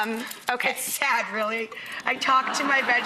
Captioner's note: laughter